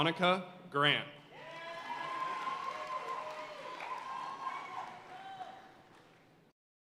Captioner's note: audience cheering and applauding